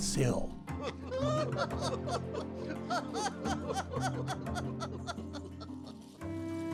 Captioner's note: soft music; people laughing